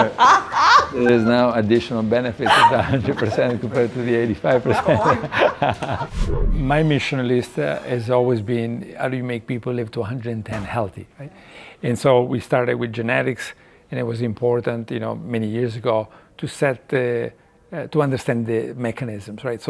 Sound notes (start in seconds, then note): 0.0 laughing; 4.9 laughing